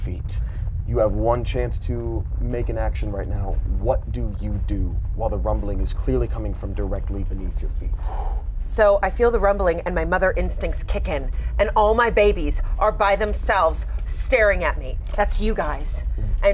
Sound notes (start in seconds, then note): none